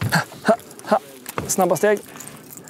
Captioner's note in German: Schnelle Schritte